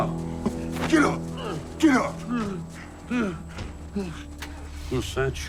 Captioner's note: man grunting and panting